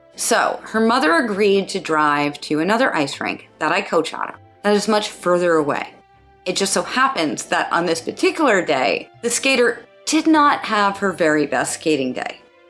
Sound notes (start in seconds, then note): none